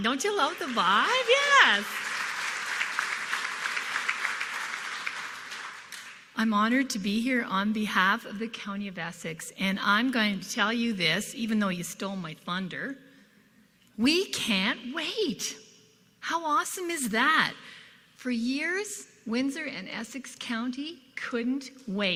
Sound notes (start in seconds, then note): 3.9 applause